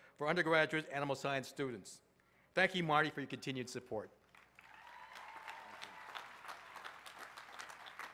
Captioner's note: applause